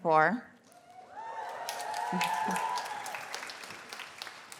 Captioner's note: cheers, applause